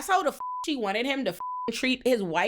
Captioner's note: beep